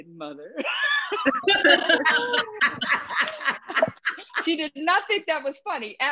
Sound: laughter

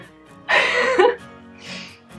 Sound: laugh

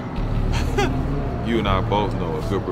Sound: chuckle

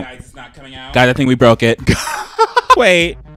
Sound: laughs

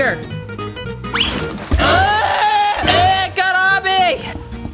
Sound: wailing

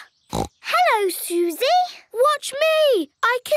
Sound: snorts

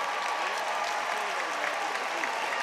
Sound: audience applauding and cheering

